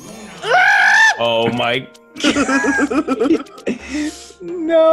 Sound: laugh

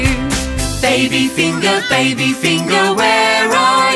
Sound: baby crying

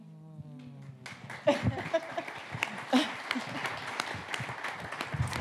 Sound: audience applauding

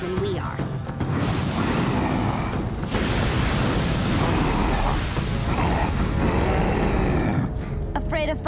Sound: grunting

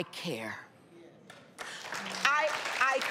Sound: applause

